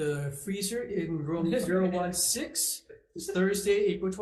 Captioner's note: person laughs